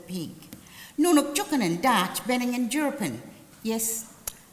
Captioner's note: language spoken